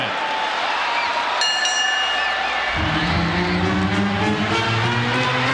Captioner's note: audience cheering; bell ringing; triumphant music